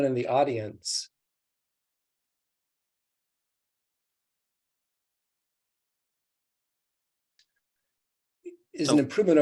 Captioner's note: audio cut out